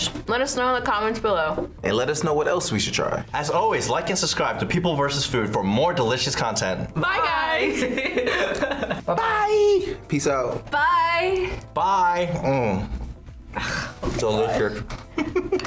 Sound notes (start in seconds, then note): 7.6 laughs; 15.2 laughs